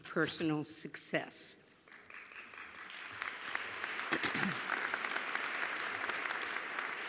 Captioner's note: applause